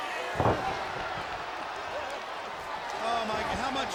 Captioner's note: body thudding